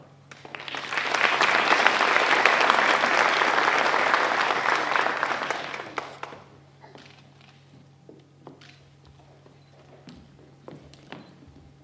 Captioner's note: applause